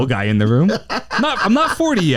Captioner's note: laughs